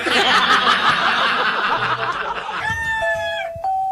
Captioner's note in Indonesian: tertawa